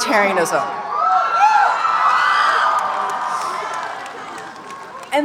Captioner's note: audience cheering